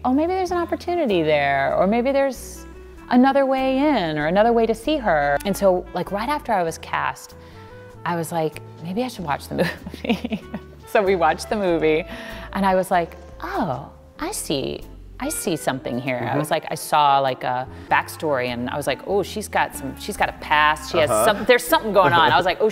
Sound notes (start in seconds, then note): 9.6 laughs